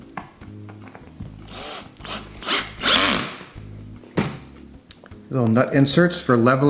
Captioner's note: cordless drill turning